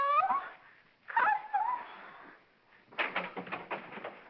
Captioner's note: voice cracks; door clatters open